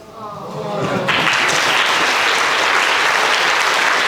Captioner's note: applause